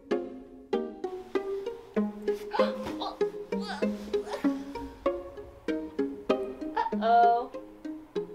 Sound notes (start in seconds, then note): 2.5 groans